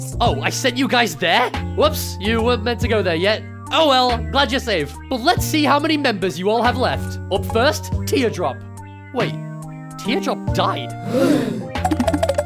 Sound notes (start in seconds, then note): 11.0 gasp